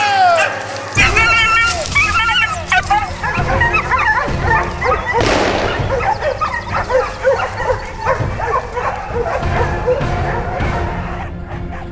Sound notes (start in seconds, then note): 0.3 dogs barking; 0.3 drivers yelling; 5.2 gunshot; 7.8 dogs barking